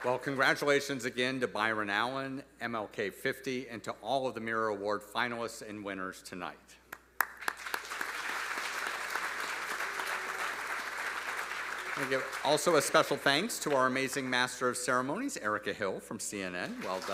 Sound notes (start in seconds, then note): 7.2 audience applauding